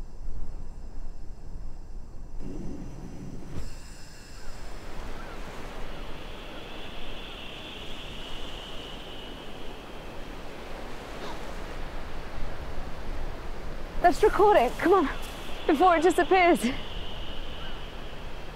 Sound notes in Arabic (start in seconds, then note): 0.3 هسهسة الغاز بصوت أعلى; 3.0 زقزقة الحشرات